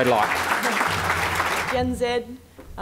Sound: audience applause

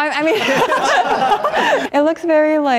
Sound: laughter

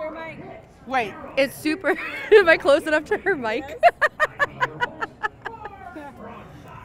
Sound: laughs

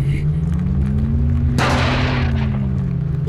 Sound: grunts; slam

